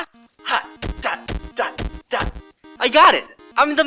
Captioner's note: work noises